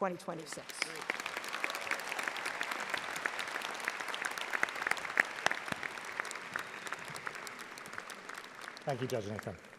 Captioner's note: audience applauding